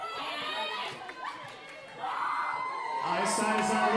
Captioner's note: audience cheering